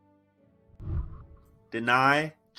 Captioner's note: whooshing